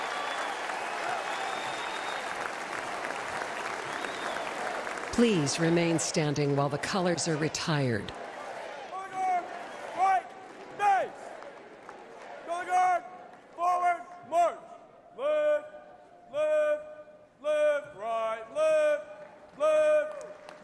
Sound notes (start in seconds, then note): 3.0 cheers and applause